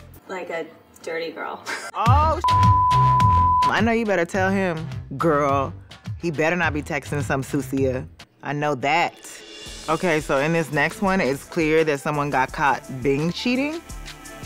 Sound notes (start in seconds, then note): 1.8 laughs; 2.0 upbeat music; 2.4 beep; 9.2 upbeat drumset music